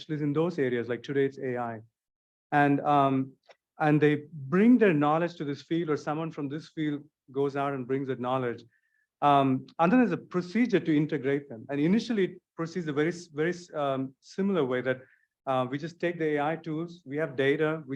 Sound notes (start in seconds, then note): none